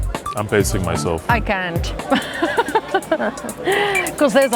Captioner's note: laughs